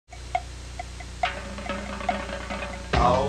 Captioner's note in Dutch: koeienbel gaat